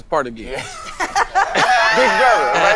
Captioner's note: all laughing